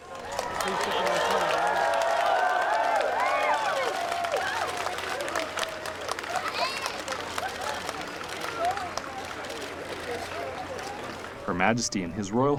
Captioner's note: applause